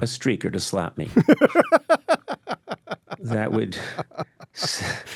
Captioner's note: David laughing